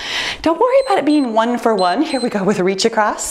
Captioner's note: timer beeps